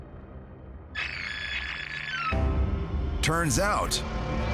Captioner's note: tape whirs